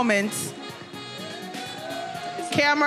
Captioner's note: attendees cheering